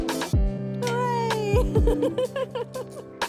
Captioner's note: chill music; laughing